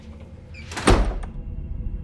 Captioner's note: door unlatching; door slams; tense music